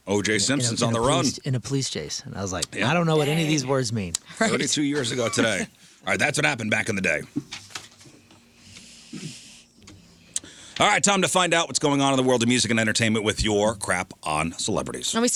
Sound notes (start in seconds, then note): 7.3 chuckles